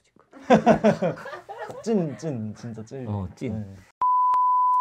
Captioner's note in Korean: 웃음